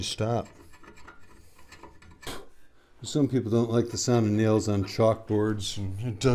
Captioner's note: blows